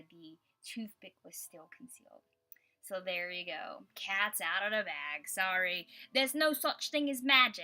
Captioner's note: in a British accent